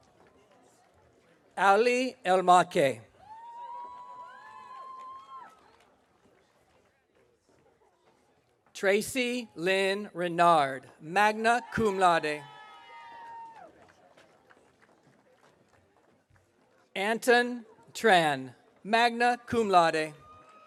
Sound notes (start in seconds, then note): 3.2 audience cheering; 12.6 audience cheering